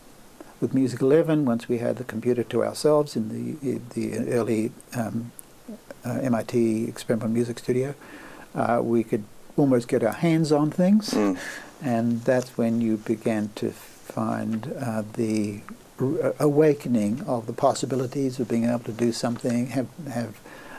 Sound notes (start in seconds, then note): 11.1 laughs